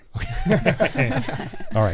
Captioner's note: laughing